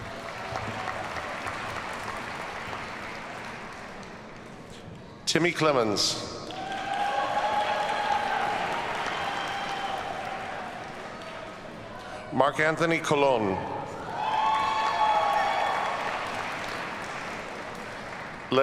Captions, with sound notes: (audience applauds) Temy Clemons. (audience cheers and applauds) Marc Anthony Colón. (audience cheers and applauds)